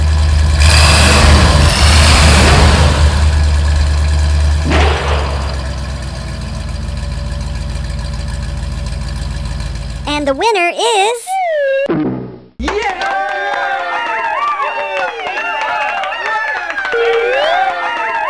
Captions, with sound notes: [ engine revs] [ engine revs] [ slam] and the winner is ..... [ bonk] [ cheers and clapping]